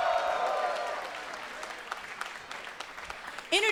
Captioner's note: cheers & applause